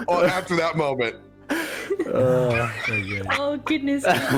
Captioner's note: all have been giggling, weary sighs